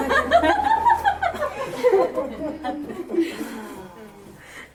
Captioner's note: laughter